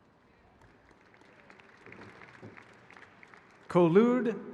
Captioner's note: audience applauding